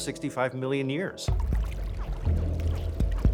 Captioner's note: water sloshing